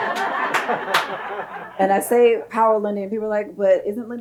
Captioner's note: audience laughs